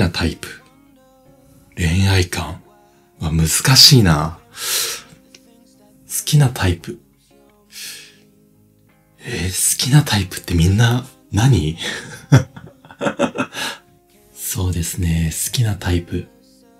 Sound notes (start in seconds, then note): 11.8 laughs